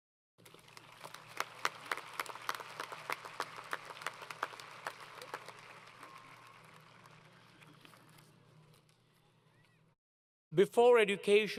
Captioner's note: applause